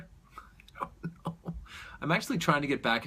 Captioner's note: chuckles